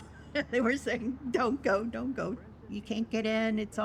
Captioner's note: laughing